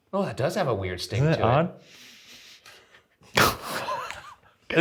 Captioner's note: sniffs; laughs